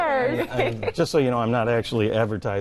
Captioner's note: laughing